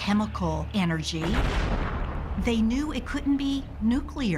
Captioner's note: explosion roars